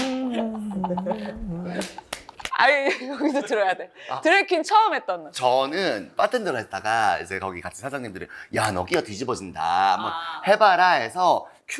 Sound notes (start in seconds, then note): 2.6 laughing so hard, couldn’t focus